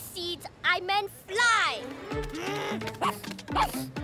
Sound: huffs; barks

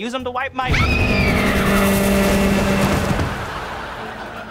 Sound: screaming

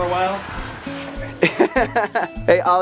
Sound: laughter

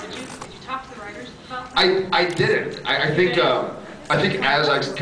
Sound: none

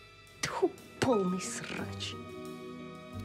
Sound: speaks scathingly in Russian

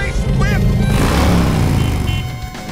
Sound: revving, beeping

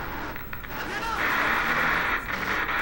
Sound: voices from the TV

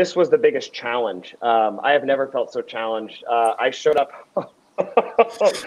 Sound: laughs

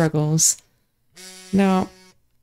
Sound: repeating phone vibration, slowly growing louder

